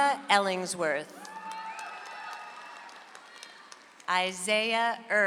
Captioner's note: audience applauds